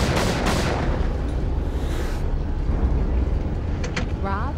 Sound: gunfire

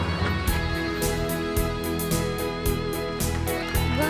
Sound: applause

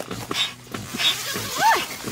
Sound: zipper sound

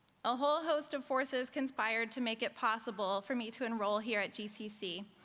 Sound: none

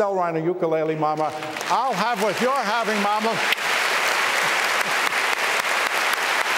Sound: applause

